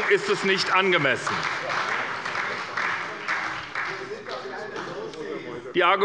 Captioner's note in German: Beifall bei der SPD